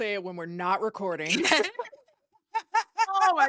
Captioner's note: laughing